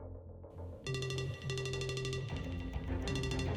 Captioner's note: phone rings